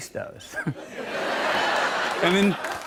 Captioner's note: laughter